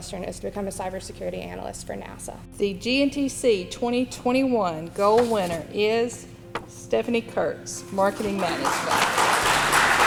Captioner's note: applause